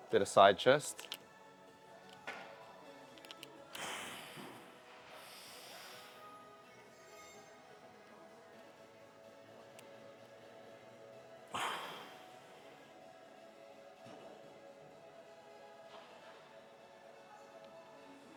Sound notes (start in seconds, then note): 3.7 exhaling